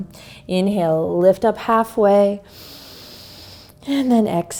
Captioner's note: inhales